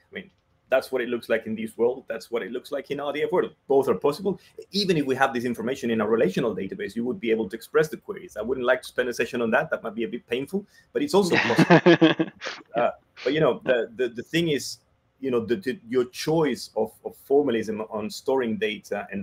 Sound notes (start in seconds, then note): 11.2 laughs